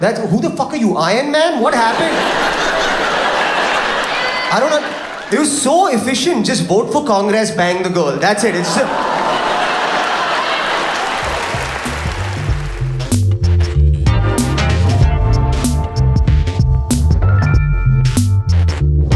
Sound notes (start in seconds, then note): 1.5 audience laughs; 8.4 audience laughs; 11.0 upbeat music